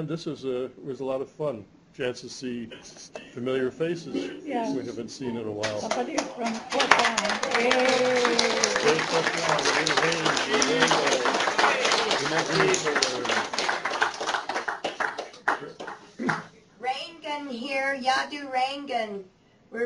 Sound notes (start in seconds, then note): 7.7 cheers, applause; 10.1 non-english speech